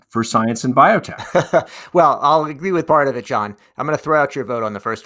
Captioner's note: laughs